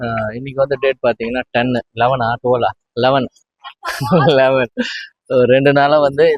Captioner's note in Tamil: சிரிப்பு